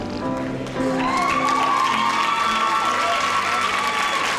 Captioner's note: cheering